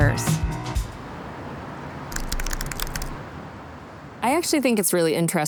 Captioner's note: air humming; keys tapping